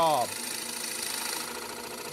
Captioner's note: machine whirring